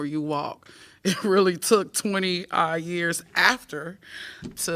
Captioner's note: laughter